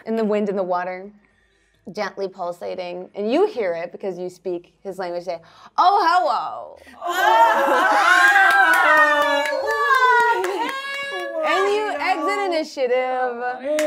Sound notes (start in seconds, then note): 7.0 all shouting excitedly; 13.6 all cheering